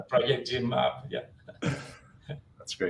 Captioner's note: laughter